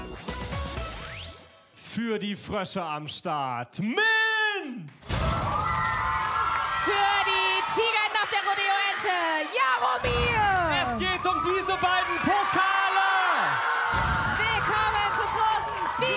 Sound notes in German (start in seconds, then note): 4.6 Applaus